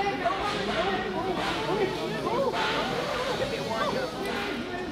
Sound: people clamoring

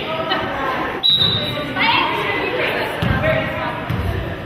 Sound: whistle blows

